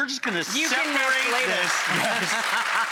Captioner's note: audience claps; laughs